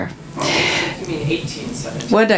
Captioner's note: audience member speaking